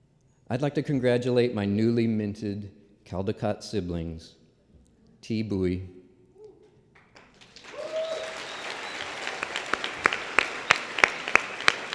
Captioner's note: applause